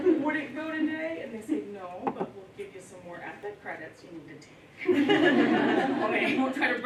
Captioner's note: laughter